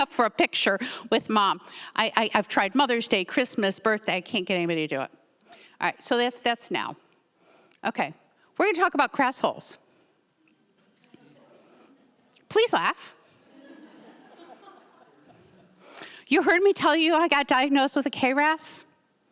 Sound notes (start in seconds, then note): 11.3 audience members laughing sparsely; 13.4 audience members laughing